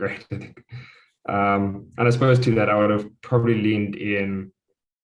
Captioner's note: laugh